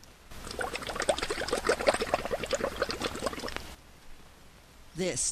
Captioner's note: sound of bubbles in water